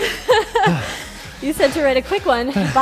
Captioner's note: laughs